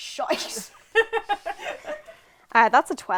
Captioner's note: laughter